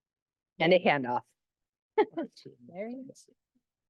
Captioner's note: laughs